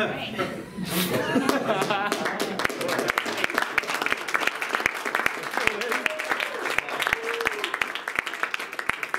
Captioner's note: laughter; laughter followed by applause